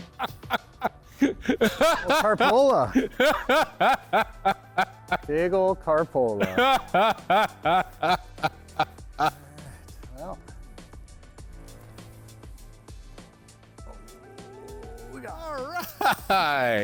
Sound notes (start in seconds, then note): 6.4 laughing; 10.3 lively music continues